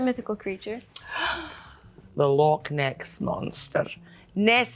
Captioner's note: gasps